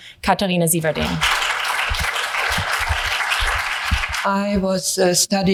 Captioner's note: hands clapping